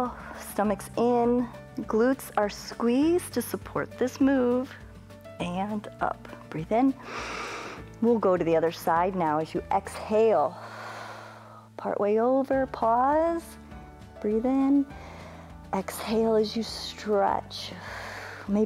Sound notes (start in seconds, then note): 7.0 inhales; 11.0 exhales; 14.8 inhales; 17.8 exhales